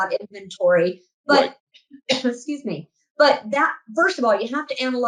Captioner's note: coughs